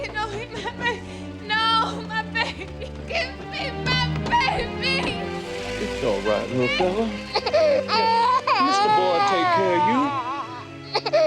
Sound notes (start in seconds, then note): 0.2 suspenseful music; 7.3 Henry crying